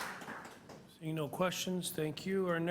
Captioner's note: applause